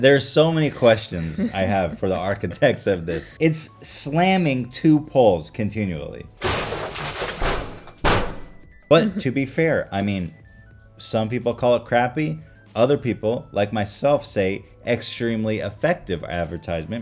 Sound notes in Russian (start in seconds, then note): 7.4 Билборд ударяется о фонарные столбы